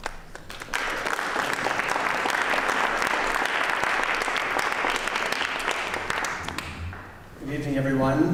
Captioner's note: applause